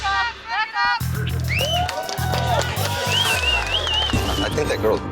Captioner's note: patrons cheering